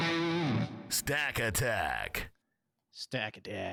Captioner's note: upbeat electric guitar riff; voiceover